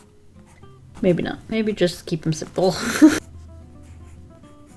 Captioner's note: laughs